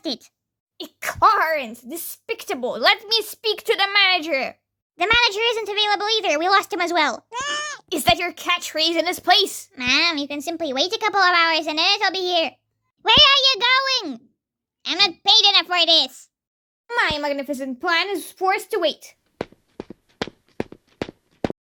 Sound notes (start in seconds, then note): 16.9 fakely regrettive voice; 19.3 footsteps